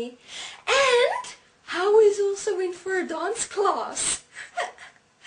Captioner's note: laugh